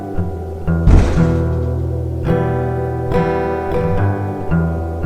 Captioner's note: muffled thump